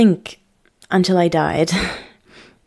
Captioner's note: chuckle